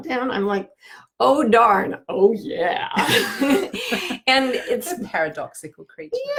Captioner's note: laughing